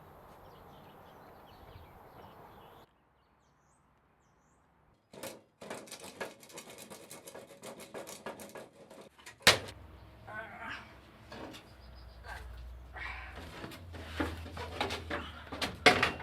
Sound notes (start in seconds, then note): 10.3 grunting